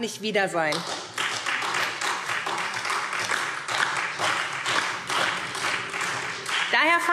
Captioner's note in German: Beifall SPD und DIE LINKE